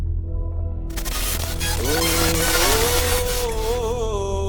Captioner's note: eerie, painful vocal music; electric sparks crackle as text appears; eerie, painful vocal music